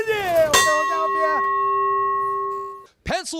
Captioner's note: bell ringing